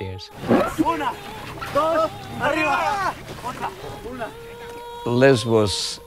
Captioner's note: speaking in foreign language